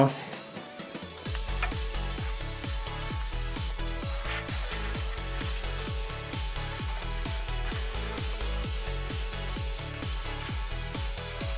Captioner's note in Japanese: 塗装音